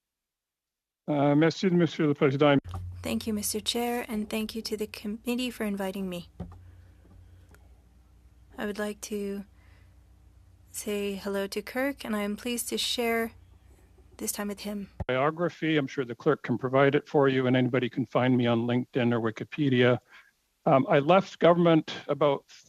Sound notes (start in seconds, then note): 6.2 speaking French